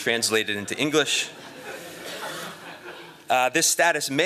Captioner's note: laughter